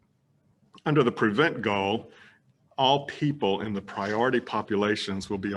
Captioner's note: none